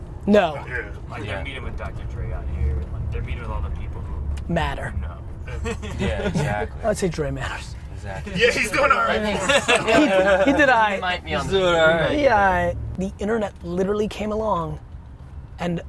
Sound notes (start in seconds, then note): 5.4 laughs; 10.0 laughs